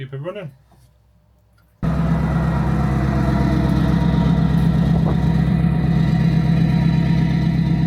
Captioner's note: engine noise